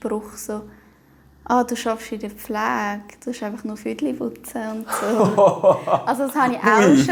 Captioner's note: laughter